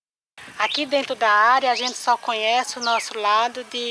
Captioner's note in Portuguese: Canto de pássaros